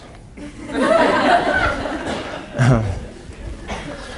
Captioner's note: laughing